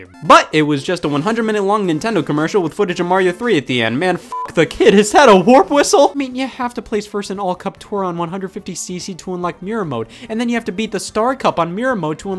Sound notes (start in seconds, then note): 4.2 beep